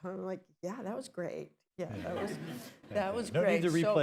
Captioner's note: laughter